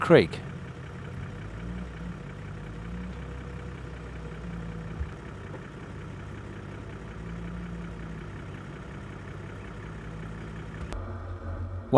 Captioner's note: vehicle sounds